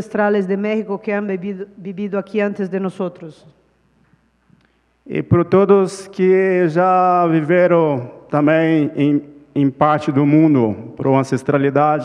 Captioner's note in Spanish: Ponente habla en portugués